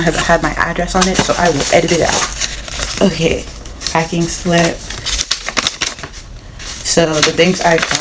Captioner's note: crinkling paper sounds